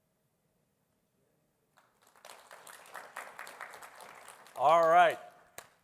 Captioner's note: applause